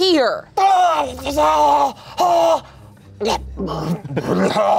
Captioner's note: grumbles